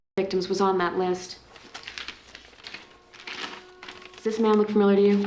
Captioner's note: paper rustling